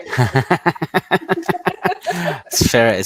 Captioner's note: laughs